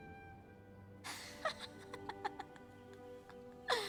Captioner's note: woman laughs